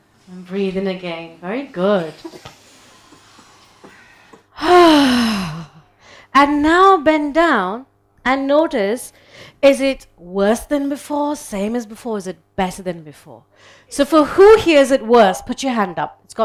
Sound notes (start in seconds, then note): 1.9 people inhaling; 4.7 people exhaling